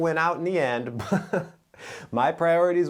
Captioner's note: giggles